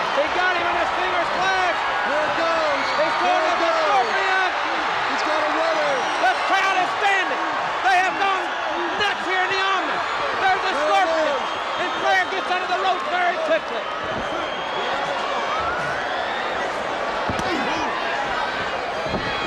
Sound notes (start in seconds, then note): 5.1 crowd cheering drowning out audio; 14.3 crowd cheering; 17.2 chop striking